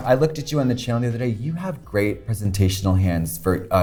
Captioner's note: none